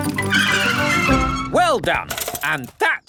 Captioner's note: tires screech